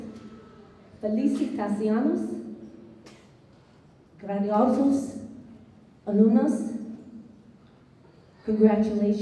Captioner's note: non-english speech